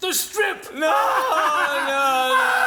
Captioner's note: LUCIFER PUPPET laughs